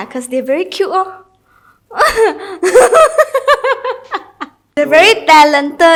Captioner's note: laughs